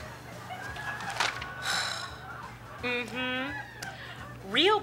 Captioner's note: sighs